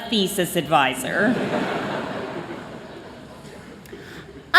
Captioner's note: chuckling